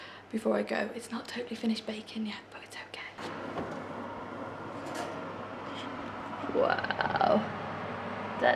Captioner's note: whispers